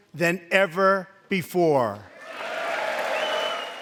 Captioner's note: cheering and applause